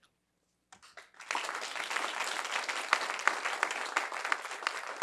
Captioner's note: applause